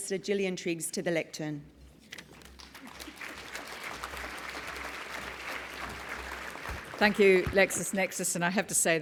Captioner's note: applause